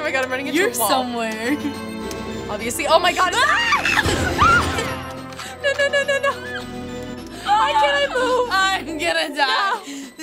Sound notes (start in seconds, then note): 3.5 both scream